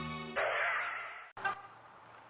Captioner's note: dramatic music; car honking